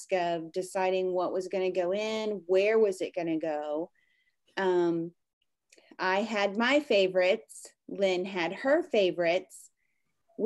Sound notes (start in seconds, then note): none